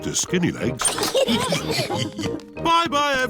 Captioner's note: all laugh